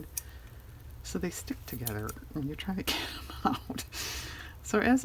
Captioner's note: laughs